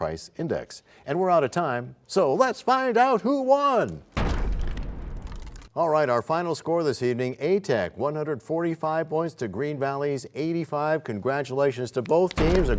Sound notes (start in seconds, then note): 4.2 crashing sound